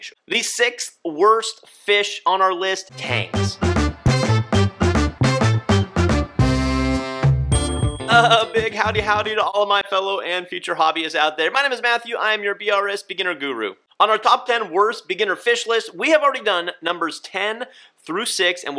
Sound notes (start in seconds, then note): 2.9 upbeat playful music; 7.5 bell chimes